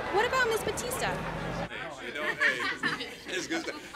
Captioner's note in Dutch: mensen praten met elkaar